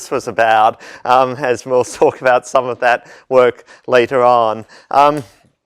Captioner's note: laugh